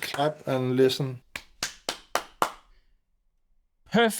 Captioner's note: clapping